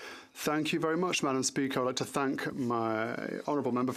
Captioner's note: speaking French